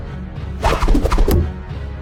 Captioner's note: sound of knife impact